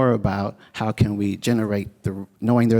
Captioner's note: none